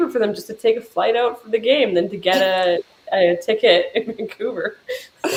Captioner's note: laughing